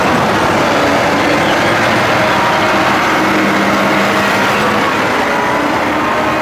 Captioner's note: very loud pump and truck engine noises